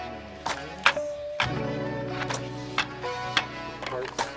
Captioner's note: clicking